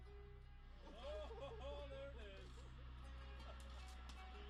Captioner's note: slow instrumental music; voiceover; slow instrumental music